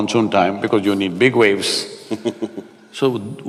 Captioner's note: Matthew laughs